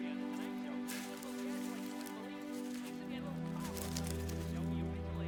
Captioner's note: food rustling